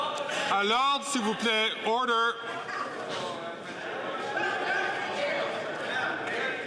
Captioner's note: some Applause